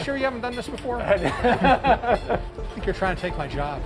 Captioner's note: laughs